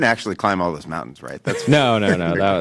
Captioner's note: laughs